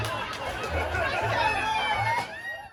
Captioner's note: people cheering